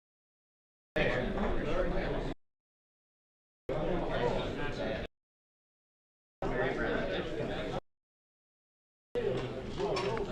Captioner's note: background chatter, men having multiple conversations, periods of silence